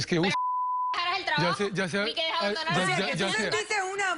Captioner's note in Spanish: Bip